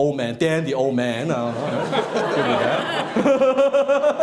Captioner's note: laughing